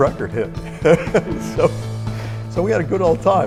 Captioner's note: laughs